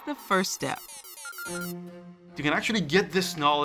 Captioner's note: beeping